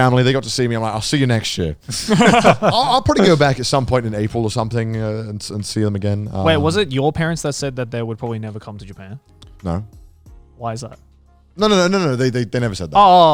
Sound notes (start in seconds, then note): 1.9 group laughs; 9.4 soft upbeat music